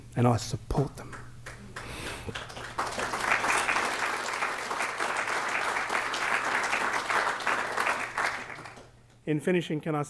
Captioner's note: applause